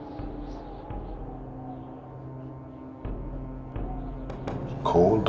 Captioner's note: wind blowing